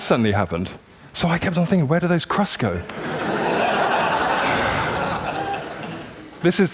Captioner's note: laughter